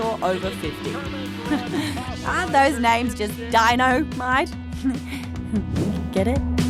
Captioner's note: chuckles